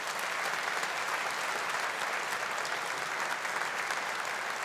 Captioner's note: audience applauding